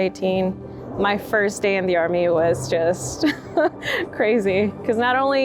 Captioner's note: chuckles